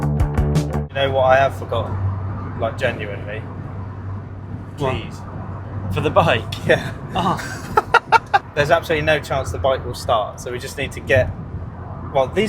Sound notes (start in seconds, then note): 0.0 upbeat Music; 7.1 laughs